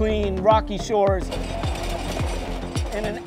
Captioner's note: lobsters clattering